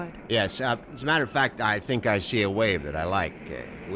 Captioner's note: none